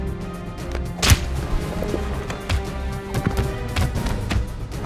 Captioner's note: blows thud; gun fires; blows thud